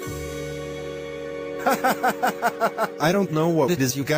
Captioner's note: laughs